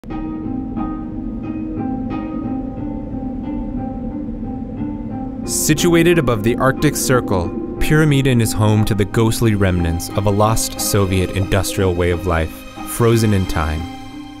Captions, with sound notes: (haunting music) - [Voiceover] Situated above the Arctic Circle, Pyramiden is home to the ghostly remnants of a lost Soviet industrial way of life, frozen in time.